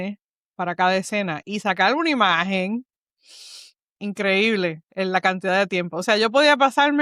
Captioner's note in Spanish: resoplido